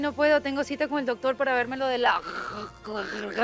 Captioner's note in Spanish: Carraspea